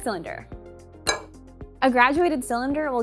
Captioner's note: clink, putting cylinders on table